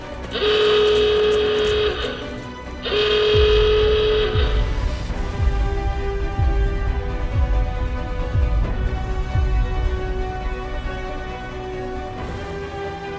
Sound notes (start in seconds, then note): 2.8 timer ticking